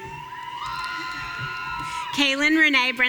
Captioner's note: audience cheering